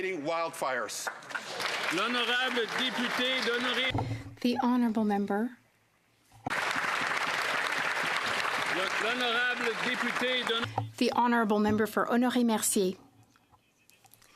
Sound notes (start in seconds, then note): 6.4 some Applause; 9.2 speaking French